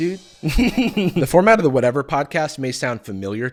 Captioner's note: cymbals crashing; laughs